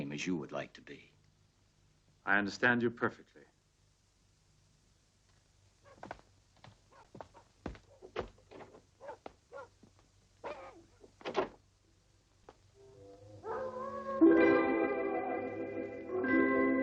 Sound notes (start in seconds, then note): 7.4 dogs barking; 12.8 wolf howling; 12.8 light dramatic music